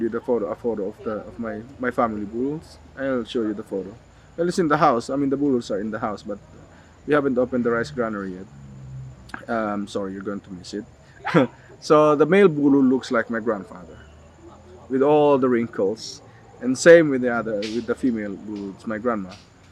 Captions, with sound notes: the photo, a photo of the, of my, my family bululs. I'll show you the photo. Well, it's in the house. I mean, the bululs are in the house, but we haven't opened the rice granary yet. Um, sorry, you're going to miss it [chuckles]. So, the male bulul looks like my grandfather with all the wrinkles. And same with the other, with the female bulul. It's my grandma.